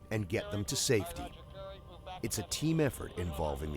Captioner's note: voiceover